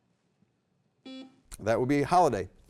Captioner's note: beep